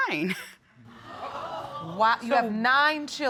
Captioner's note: audience exclaiming